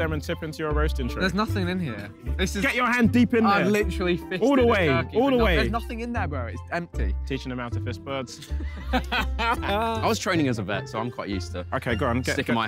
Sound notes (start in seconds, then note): 8.4 laughter